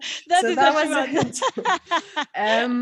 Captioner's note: laughter